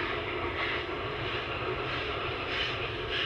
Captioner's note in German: Regelmäßiges Zischen